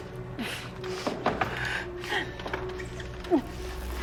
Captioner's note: quiet eerie music; Caroline grunting